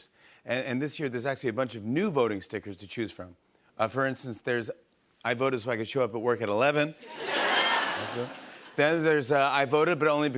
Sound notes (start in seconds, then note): 7.0 laughter